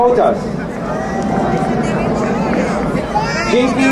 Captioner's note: crowd cheering